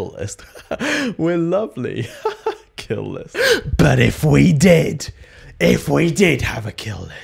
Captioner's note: laughs